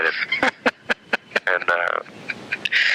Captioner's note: laughter